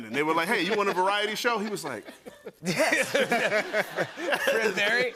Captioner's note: laughter